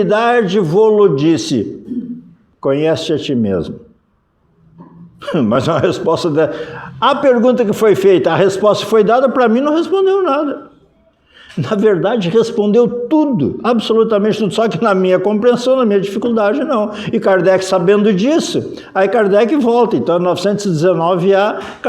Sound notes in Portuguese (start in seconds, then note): 10.9 risadas